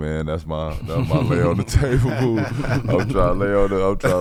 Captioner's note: laughing